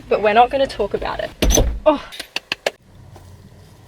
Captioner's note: claps